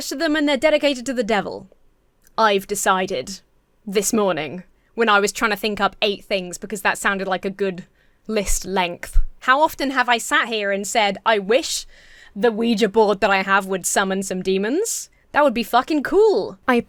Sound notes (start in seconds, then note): none